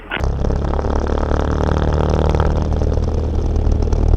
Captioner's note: engine Sounds